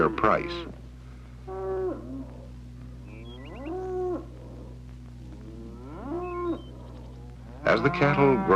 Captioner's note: cows mooing